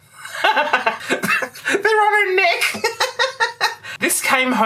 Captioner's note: laughter